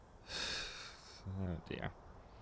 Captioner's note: sighing in frustration